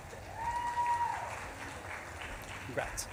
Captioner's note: audience claps and cheers